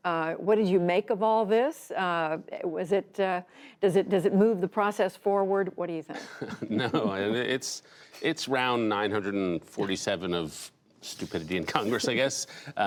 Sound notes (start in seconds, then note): 6.1 laughter